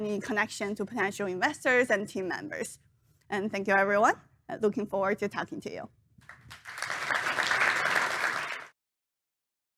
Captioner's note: applause